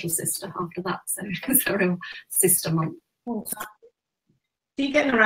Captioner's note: laughs